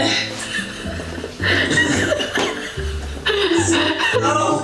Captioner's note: laughs happily